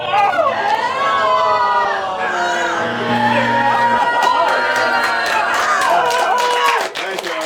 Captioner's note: cheers and groans